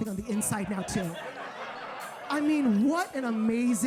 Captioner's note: audience laughs